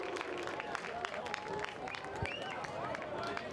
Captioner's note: fans applaud